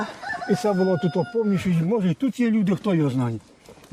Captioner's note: rooster crowing